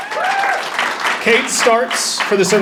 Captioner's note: audience applauding and cheering